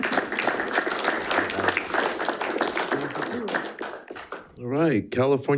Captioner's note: audience applauding